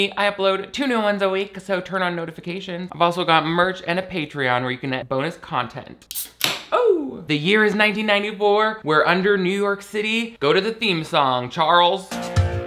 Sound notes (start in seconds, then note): 6.0 soda can clicking open